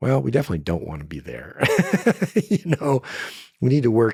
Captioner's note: laughs